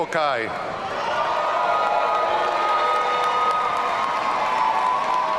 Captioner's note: audience cheering